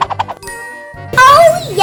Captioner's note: cartoony swishing; magical ting